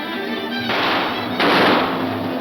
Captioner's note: gunshots; elevator whirring